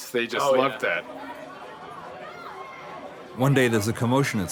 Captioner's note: students chattering